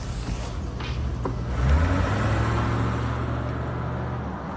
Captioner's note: engine revving